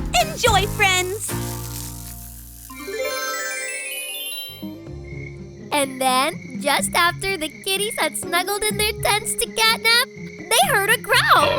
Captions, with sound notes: Enjoy, friends. [TRANSITION TONES] [CRICKETS] And then just after the kitties had snuggled in their tents to catnap, they heard a growl.